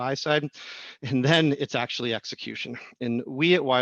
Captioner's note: laugh